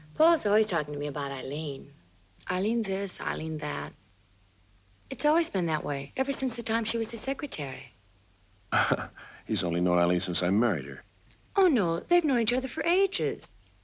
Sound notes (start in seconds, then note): 8.7 laughs